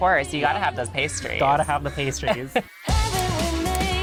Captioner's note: giggling